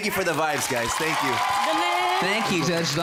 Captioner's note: cheering, applauding